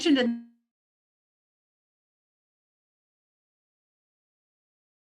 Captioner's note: audio drop